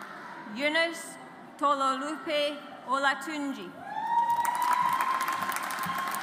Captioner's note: audience applauds